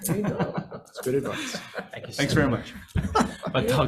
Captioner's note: group laughing